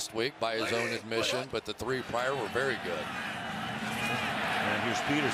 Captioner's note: laughs